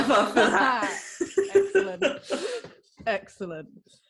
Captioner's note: laughing